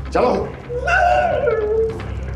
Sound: yelps

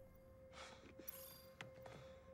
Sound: exhaling

